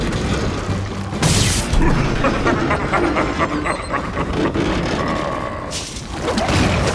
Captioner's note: electricity buzzes; Steenium cackles; intense music continues